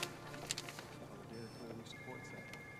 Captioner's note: alarm